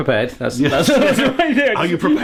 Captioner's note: laughing